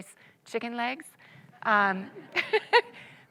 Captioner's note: audience laughs